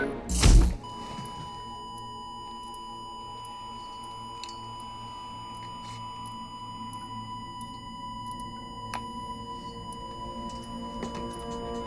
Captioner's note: flat line